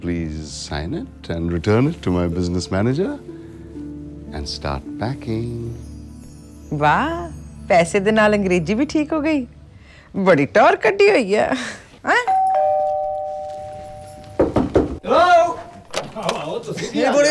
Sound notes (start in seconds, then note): 12.2 door bell rings; 14.3 knock on the door; 15.6 door opens